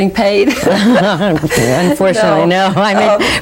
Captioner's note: laughing